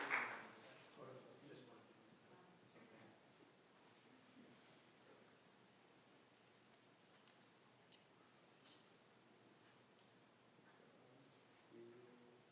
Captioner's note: applause